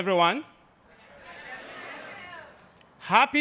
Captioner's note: audience cheering